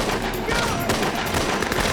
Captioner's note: gunfire